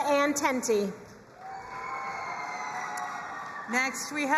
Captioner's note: crowd cheering and applauding